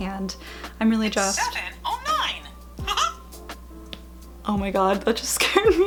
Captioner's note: Mickey Mouse laugh